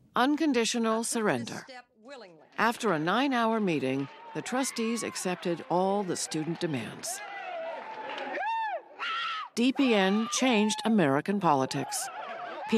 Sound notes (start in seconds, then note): 8.5 students cheering